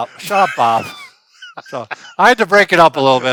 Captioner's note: laughter